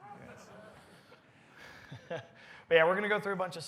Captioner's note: laughter